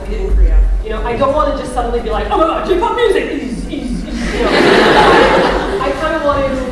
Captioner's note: laughter